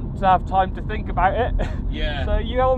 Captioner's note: laugh